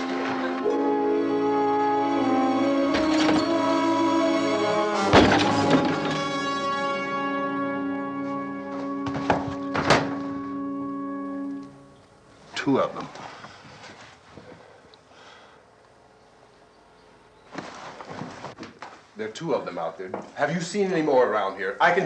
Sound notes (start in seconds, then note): 2.6 glass shatters outside